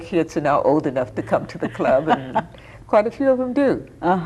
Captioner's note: laughing